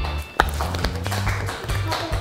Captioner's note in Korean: 물개 박수